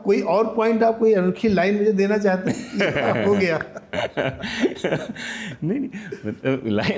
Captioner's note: laughs